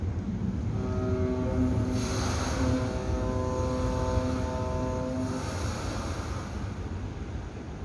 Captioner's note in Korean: 뱃고동 소리